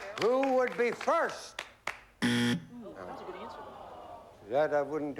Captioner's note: buzzer